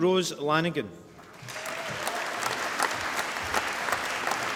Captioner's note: applause